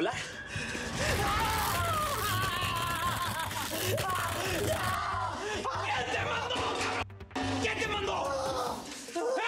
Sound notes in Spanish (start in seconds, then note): 2.2 quejidos; 5.2 gritos